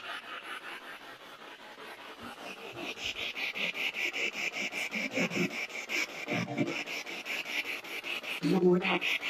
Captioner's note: radio noise from the spirit box